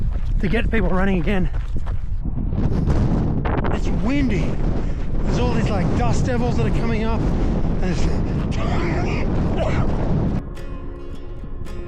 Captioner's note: coughing